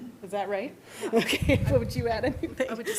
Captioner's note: laughter